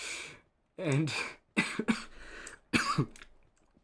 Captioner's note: coughing